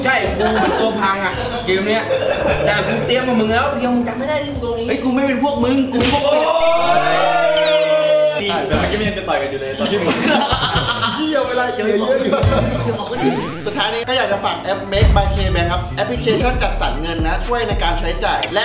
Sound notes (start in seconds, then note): 6.3 cheering; 6.7 mocking; 10.8 laughs; 13.2 laughing continues